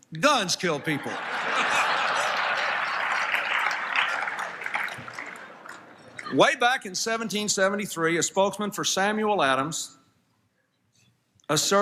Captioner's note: applause, Laughter